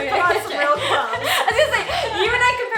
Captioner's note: laughs